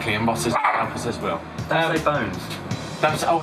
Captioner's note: dog continues to growls louder